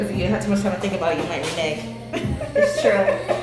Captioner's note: laughs